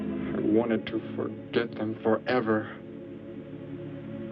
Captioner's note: engine hums